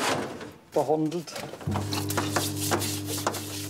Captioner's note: whirring, rubbing